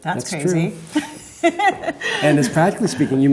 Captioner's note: laughs